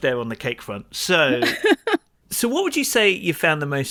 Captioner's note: laughs